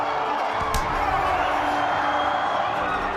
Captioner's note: punch thumps; crowd applauding